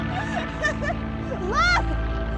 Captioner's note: airplane engine roaring; Andrea laughs